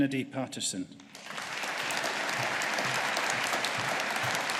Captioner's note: audience applauding